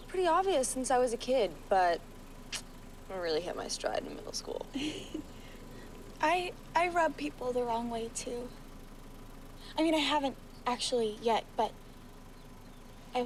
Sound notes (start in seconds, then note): 4.7 laughs